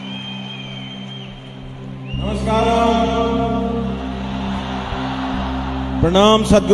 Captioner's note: cheering/Applause; cheering